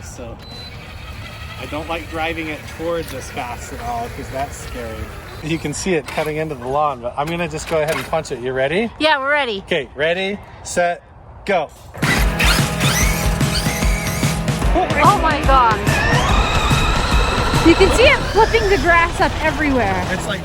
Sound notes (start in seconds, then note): 11.9 RC car whirring; 15.8 RC car whirring